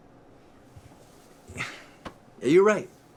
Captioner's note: sighs